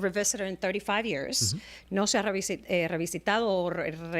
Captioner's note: Hablando ingl\s